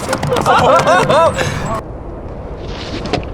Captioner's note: laughter